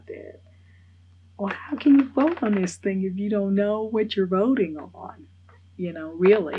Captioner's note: laughs